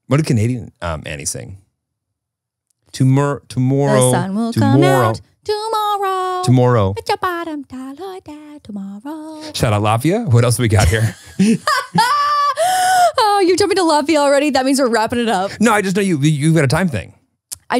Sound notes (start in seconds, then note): 10.7 laughs